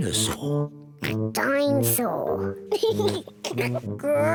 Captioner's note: oinks; laughs